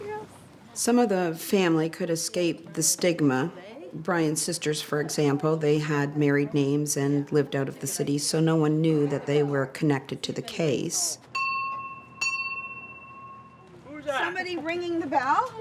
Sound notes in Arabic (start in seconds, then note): 14.1 رنين